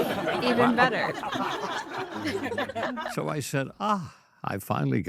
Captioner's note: all laugh